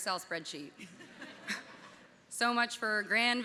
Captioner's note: audience laughing